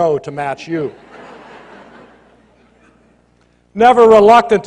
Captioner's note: laughter